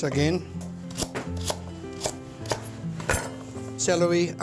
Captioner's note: slicing carrots